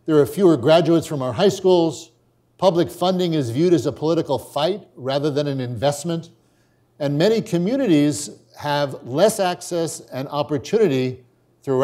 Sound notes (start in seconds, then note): none